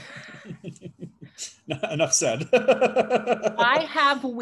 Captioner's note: laughs